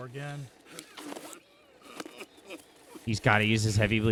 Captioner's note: man laughs